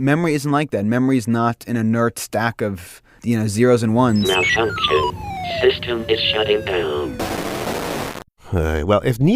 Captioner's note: ARCHIVE CLIP, robotic voice: Malfunction. System is shutting down